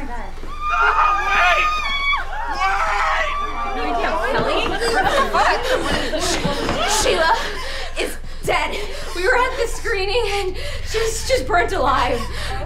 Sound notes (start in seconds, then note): 0.4 group screaming